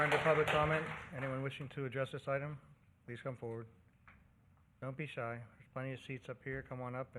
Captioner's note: cheers and applause